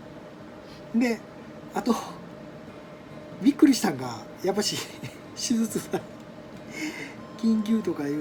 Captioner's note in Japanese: 笑い